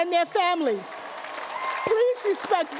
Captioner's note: applause